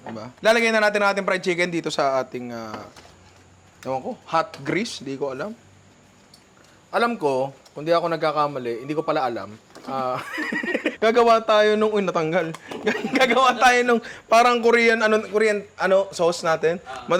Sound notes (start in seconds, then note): 10.0 laughter